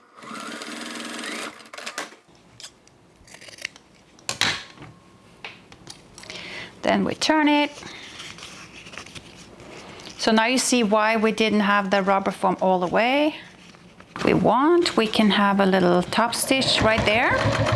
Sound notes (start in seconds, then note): 0.0 sewing machine whirring; 3.2 scissors snipping